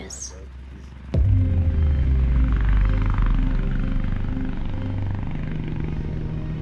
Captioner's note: propellers whirring; light dramatic music